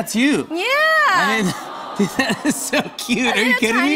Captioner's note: audience "Awws"